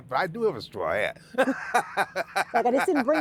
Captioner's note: laughing